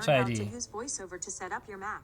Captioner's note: automated Voice